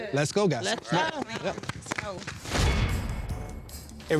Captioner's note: all applauding